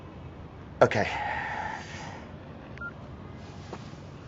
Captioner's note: beeps